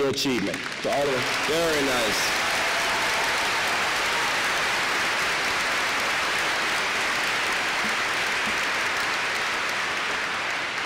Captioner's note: applause